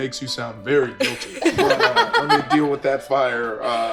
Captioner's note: laughing